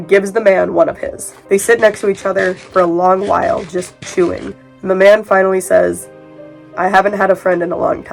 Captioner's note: chewing sounds